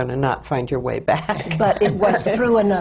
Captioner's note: laughs